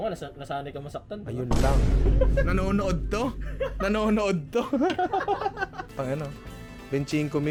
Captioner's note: laughs